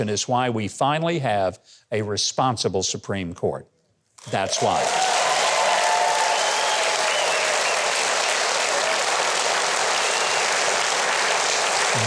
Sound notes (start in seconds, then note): 4.2 audience cheering; 8.1 audience applauding